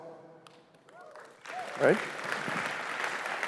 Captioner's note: cheers, applause